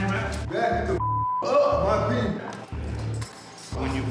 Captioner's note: beep